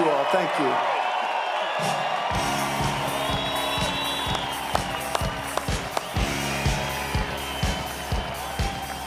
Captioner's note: cheers and applause